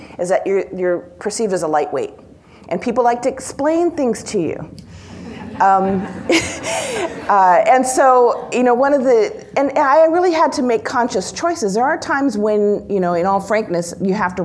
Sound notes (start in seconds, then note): 5.1 members of the audience laugh